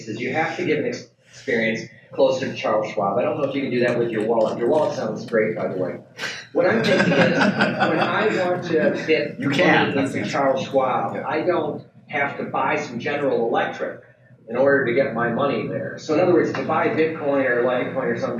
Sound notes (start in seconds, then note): 6.2 panel laughs